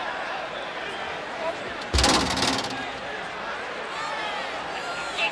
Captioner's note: stair clattering